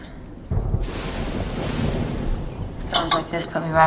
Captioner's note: thunder & lightning